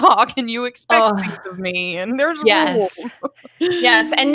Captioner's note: laughs